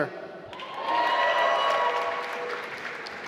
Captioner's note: applause